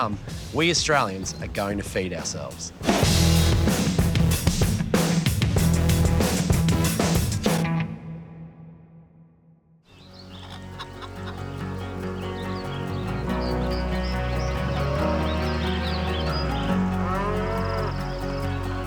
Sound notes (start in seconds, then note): 10.3 hens cluck; 16.1 cattle low